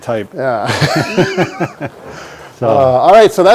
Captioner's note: both laugh